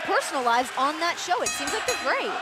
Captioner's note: bell ringing